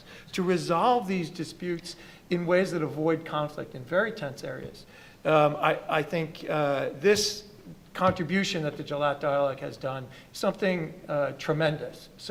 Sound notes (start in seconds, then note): 8.1 foreign language